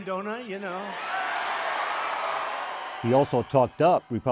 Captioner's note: audience screams